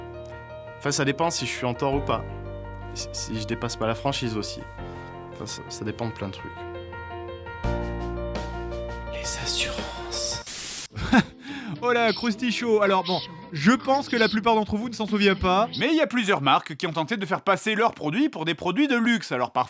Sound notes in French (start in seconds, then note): 10.9 rire